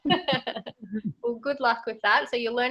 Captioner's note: laughs